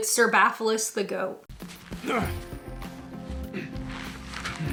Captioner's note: grunts